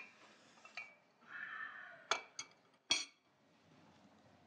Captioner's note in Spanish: Suspiros